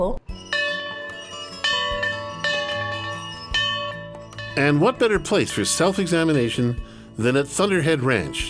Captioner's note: bell ringing